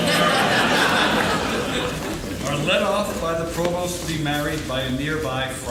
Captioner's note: laughing